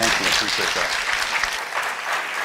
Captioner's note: applause